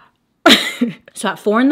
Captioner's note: slight laugh